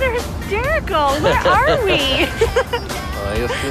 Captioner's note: giggling